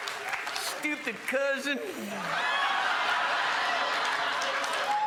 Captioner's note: crowd laughs